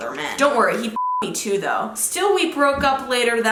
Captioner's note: beep